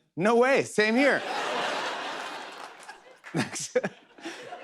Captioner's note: laughter